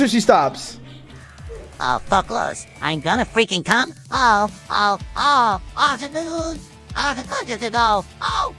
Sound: robotic orgasm noises

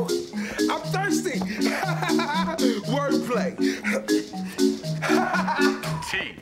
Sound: laughs

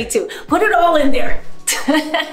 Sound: laughs

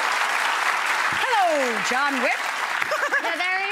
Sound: audience applauding; laughs

